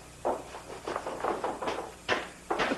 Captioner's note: knocking